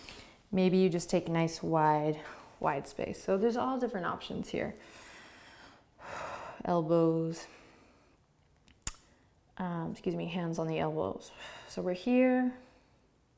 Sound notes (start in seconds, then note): 4.8 breathing